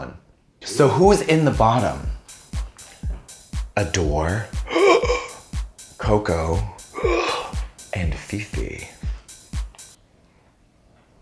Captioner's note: gasp